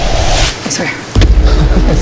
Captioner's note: laughs